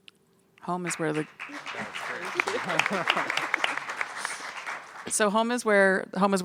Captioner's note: audience applauding